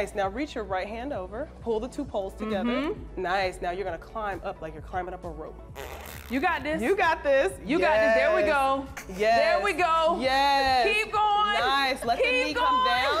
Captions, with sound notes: Now reach your right hand over, pull the two poles together. - Mm-hmm. - Nice. Now you're gonna climb up like you're climbing up a rope. - [scoffs] - You got this. - You got this. - You got it, there we go. - Yes, yes! - There we go. Keep going! Keep going! - Nice, let the knees come down.